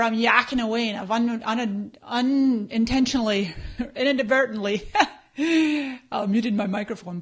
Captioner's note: laughs